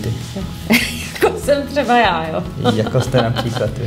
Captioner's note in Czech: smích